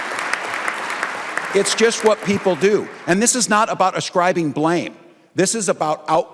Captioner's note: applause